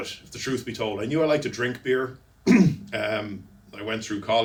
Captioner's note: clears throat